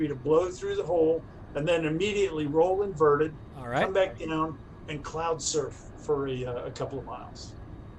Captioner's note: none